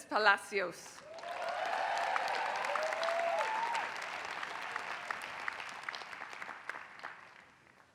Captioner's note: applause